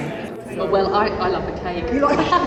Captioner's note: laughs